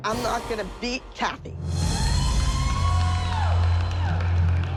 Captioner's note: cheering and applause